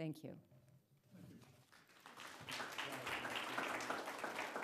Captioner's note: applause